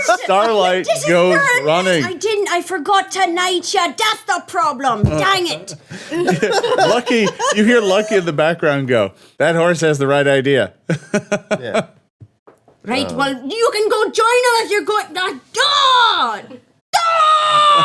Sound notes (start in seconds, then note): 0.0 laughing; 10.9 chuckles; 15.2 shouting